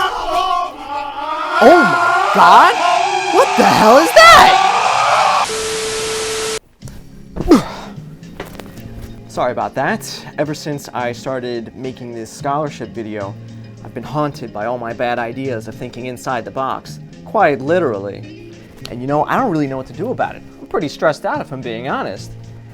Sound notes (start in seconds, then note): 5.4 static Beep